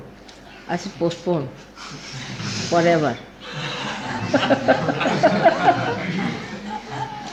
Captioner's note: laughing